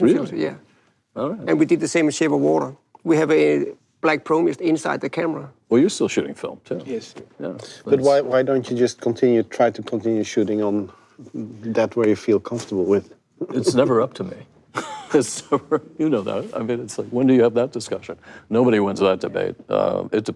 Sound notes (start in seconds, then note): 14.7 laughs